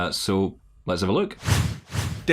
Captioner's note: sound effects